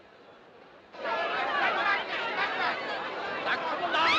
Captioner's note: Gritando, clamando